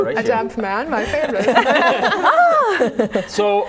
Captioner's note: laughing